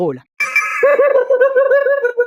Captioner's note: laughs